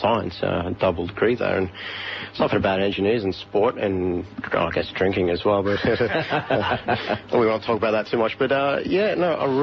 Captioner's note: group laugh